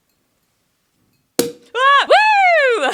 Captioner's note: bottle cap pops